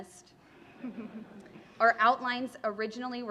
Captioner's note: laughter